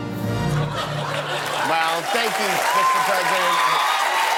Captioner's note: laughter; cheers and applause